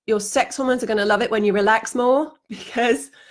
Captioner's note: she laughs